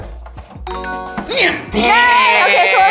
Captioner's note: tone chiming